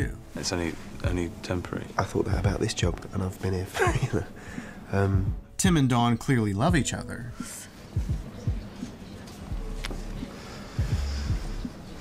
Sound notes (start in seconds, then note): 3.7 laughs